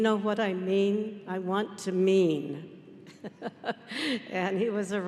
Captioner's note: laughing